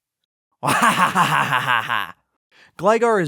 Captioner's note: evil laughter